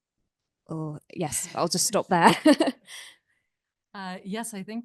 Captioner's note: laughs